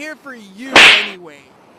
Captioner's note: smack